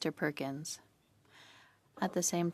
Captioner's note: speaking French